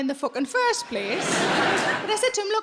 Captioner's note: audience laughing